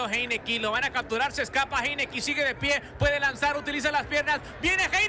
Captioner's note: speaks in Spanish